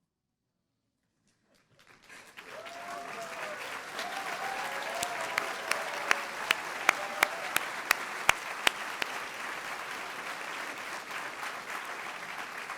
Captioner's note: applause